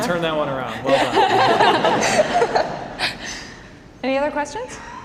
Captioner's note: laughter